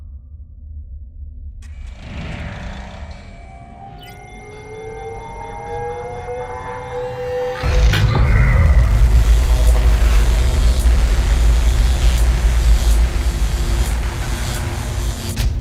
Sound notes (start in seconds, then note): 0.2 eerie music; 0.2 mechanical movements; 7.6 electricity crackling